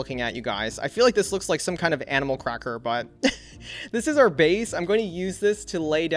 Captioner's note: chuckles